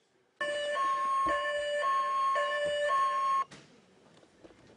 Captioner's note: toy siren wail